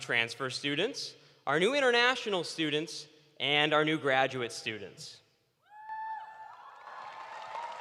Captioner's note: cheers and applause